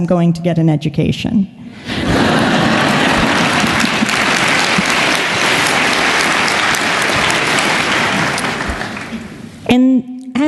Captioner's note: laughter and Applause